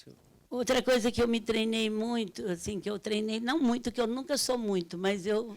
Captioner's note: speaking Portuguese